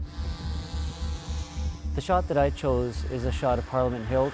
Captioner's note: drone whirs